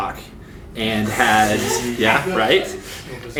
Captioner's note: laughs